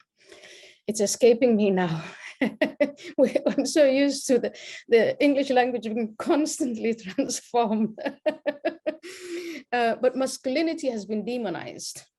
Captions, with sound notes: It's escaping me now. (laughs) I'm so used to the English language, constantly transform. (laughs) But masculinity has been demonized.